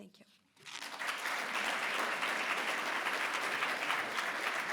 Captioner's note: audience applause